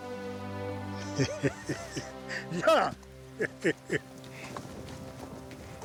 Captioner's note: laugh